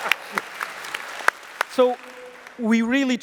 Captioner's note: applause